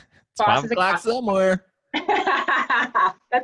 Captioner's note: laughs